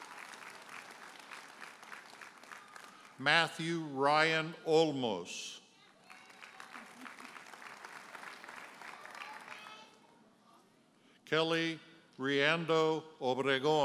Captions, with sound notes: (audience cheers and applauds) Matthew Ryan Olmos. (audience hollers and applauds) Kellie Riendeau Obregon.